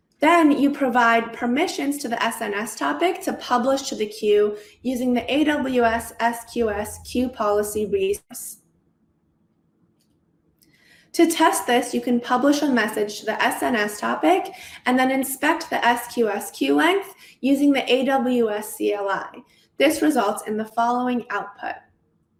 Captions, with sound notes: Then you provide permissions to the SNS topic to publish to the queue using the AWS SQS queue policy (audio warbles). To test this, you can publish a message to the SNS topic and then inspect the SQS queue length using the AWS CLI. This results in the following output.